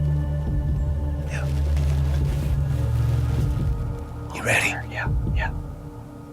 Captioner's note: whispering